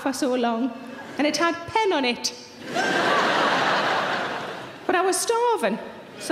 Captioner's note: audience laughs